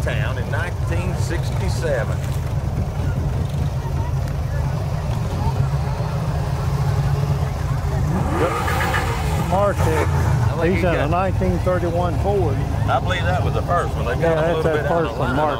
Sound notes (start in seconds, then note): 3.7 people chatter; 3.7 revving continues